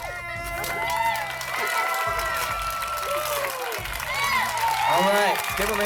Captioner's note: yeah, Clapping